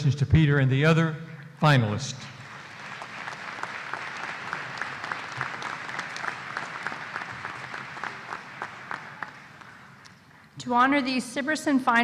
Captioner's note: applause